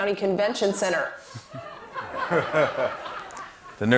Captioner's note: laughter